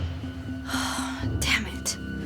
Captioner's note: sighs